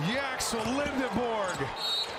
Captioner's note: whistle